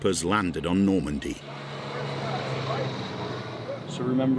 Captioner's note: engine whirring